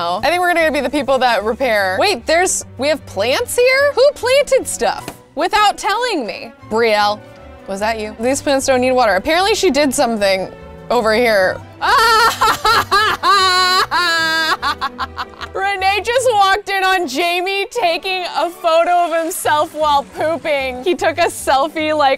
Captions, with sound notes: I think we're gonna be the people that repair. Wait, there's, we have plants here? Who planted stuff without telling me? Brielle, was that you? These plants don't need water. Apparently she did something over here. (laughing) Renee just walked in on Jamie taking a photo of himself while pooping, he took a selfie, like